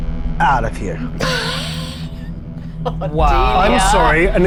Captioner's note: laughing